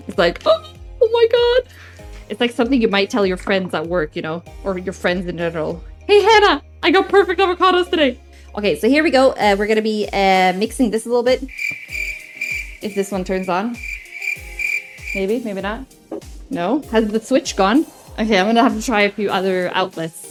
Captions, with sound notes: It's like, "Oh my god!" It's like something you might tell your friends at work, you know? Or your friends in general. "Hey, Hannah! I got perfect avocados today!" Okay, so here we go. We're gonna be mixing this a little bit. [Crickets chirping] If this one turns on. [Crickets chirping] Maybe? Maybe not? No? Has the switch gone? Okay, I'm gonna have to try a few other outlets.